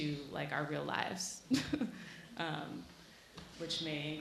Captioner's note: chuckling